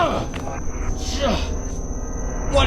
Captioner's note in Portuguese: NOAH grunhe; gritando